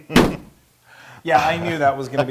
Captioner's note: laugh